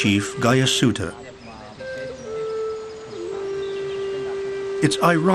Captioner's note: birds sing